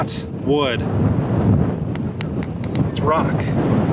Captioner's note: tapping